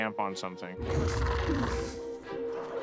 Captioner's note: alien growls